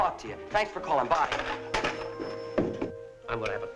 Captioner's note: phone clattering